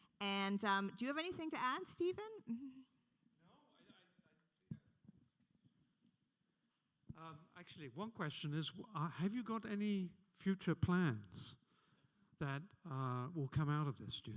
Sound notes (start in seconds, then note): none